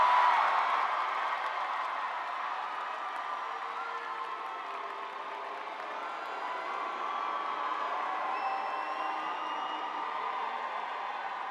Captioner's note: cheering